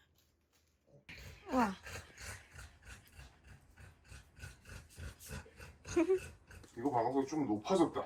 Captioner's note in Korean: 만족스런 웃음소리